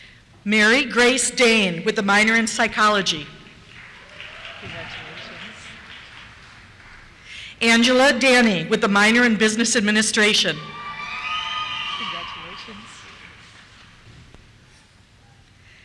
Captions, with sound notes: Mary Grace Dain, with a minor in Psychology. (applause) Congratulations. Angela Dani, with a minor in Business Administration. (cheers) - [Voiceover] Congratulations.